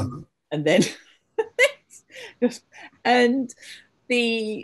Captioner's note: laughs